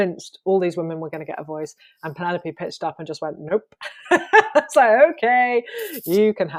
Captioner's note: laughs